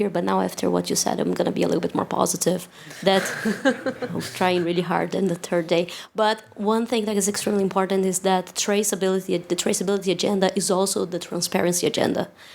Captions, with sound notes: But now after what you said, I'm going to be a little bit more positive. [LAUGHTER] I'm trying really hard in the third day. But one thing that is extremely important is that the traceability agenda is also the transparency agenda.